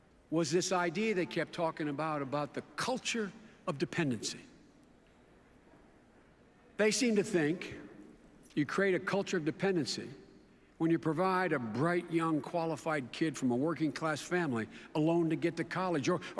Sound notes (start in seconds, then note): none